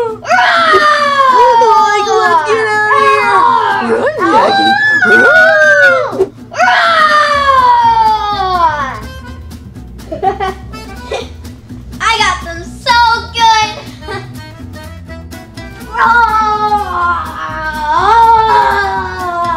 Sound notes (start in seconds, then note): 0.0 screaming; 4.0 screaming; 10.0 ha ha ha; 13.2 laughs